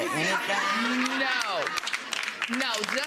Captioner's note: audience laughing